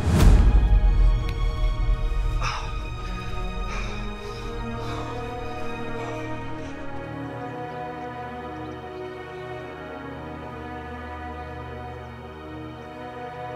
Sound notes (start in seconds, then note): 0.1 hand slaps against rock; 2.2 John panting